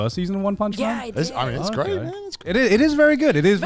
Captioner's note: men laugh